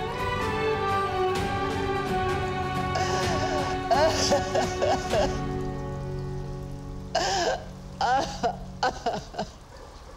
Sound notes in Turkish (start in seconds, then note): 2.9 Ağlama sesleri